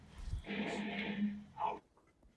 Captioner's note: light crash